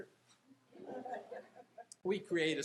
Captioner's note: audience laughing